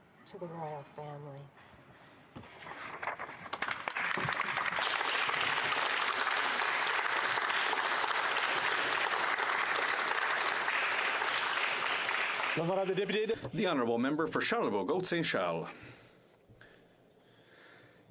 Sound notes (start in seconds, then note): 6.1 applause